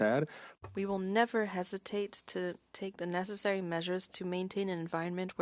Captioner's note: speaking French